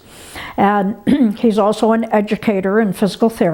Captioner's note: clears throat